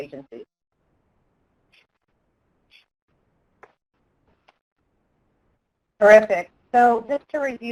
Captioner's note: pause